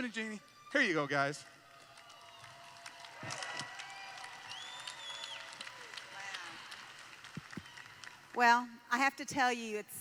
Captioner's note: applause